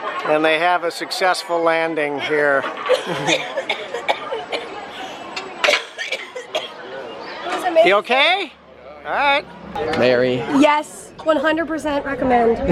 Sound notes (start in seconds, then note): 2.8 coughing